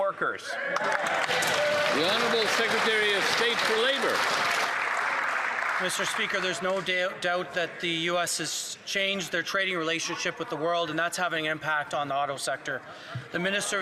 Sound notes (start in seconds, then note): 6.3 some Applause